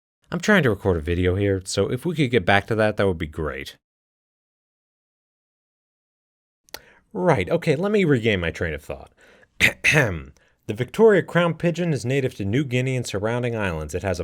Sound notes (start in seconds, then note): 9.6 clears throat